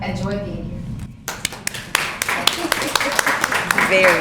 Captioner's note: applause